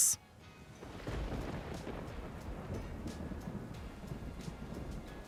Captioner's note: thunder booming